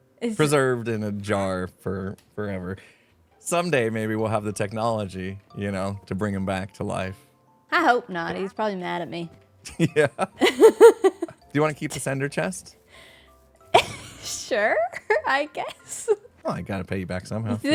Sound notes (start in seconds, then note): 9.7 laughs; 14.2 laughs